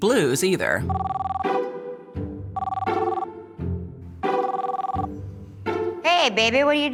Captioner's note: phone ringing